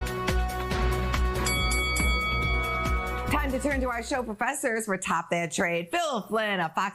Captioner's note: bell rings